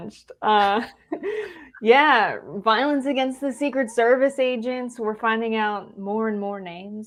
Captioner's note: laugh